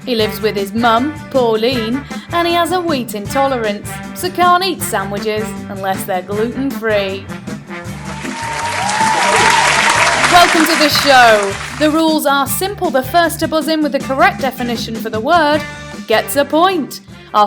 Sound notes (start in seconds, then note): 7.9 crowd applauding